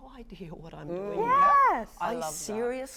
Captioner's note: panelists concurring